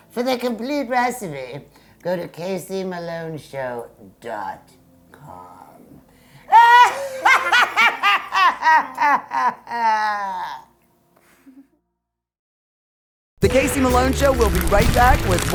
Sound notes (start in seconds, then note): 6.5 both laughing